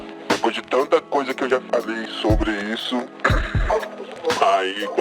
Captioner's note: coughing